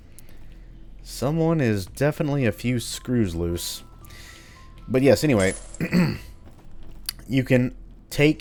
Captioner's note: clears throat